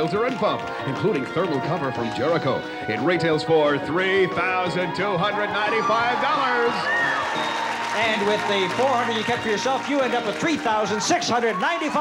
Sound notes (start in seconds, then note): 5.4 cheering and applause